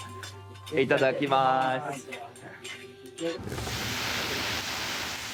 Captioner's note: speaking in foreign language